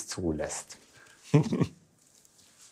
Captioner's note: he laughs